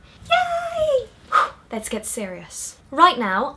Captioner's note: breathes out